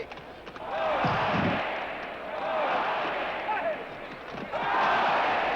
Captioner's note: chants of "olé"